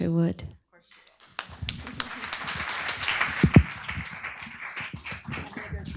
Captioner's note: applause